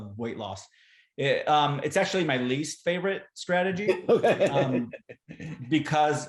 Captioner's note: laughter